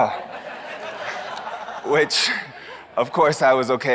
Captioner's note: audience laughs